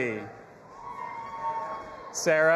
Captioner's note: audience applauding and cheering